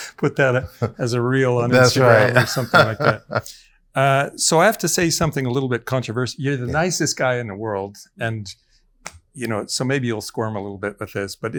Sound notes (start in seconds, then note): 0.4 laughing; 1.6 laughs